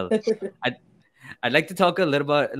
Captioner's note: laughs